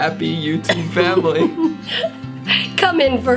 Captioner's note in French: rire